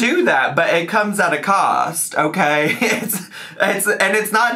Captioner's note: laughs